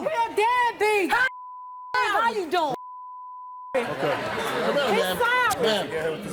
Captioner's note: beep